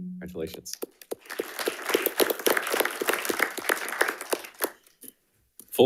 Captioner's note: panelists applauding